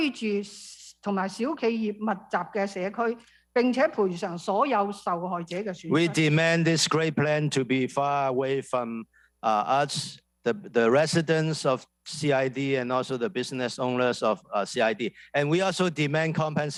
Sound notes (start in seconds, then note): 6.3 speaking non-english